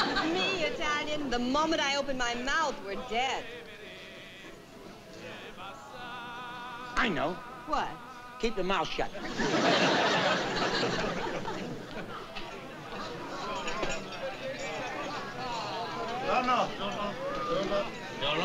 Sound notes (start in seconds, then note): 12.6 chatter